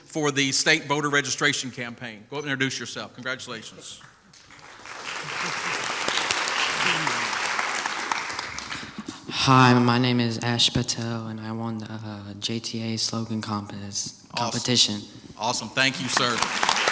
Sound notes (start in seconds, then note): 4.3 crowd applauds